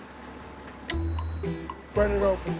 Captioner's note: snap